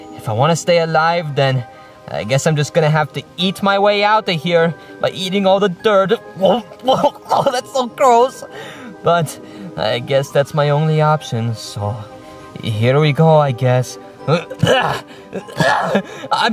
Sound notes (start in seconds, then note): 6.6 gagging; 14.3 grunting